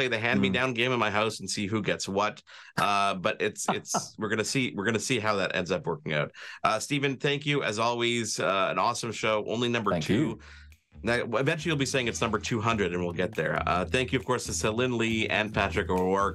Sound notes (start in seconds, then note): 3.5 chuckles